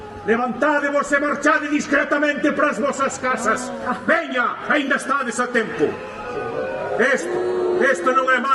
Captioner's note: uuuuh!